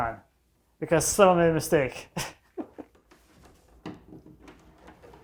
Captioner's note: chuckles